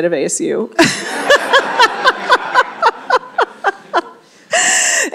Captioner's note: laughter